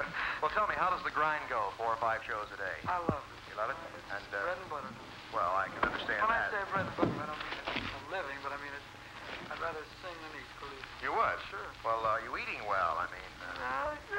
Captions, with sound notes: - Well, tell me how does the grind go? Four or five shows a day? - I love it. - You love it? - It's the bread and butter. - Well I can understand that. (shuffling papers) You are? - Sure. - Well are you eating well?